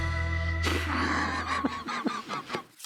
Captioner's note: laughs